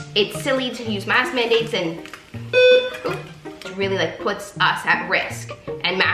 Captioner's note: loud beep